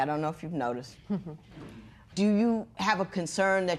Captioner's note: chuckles